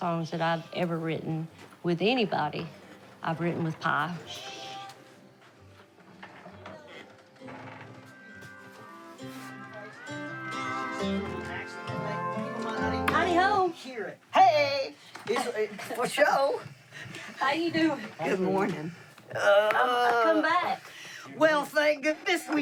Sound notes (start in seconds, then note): 5.0 gentle music; 10.5 musicians chattering